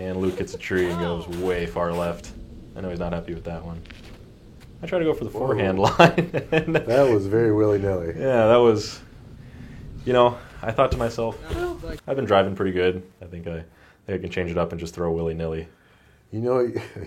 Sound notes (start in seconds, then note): 5.8 laughing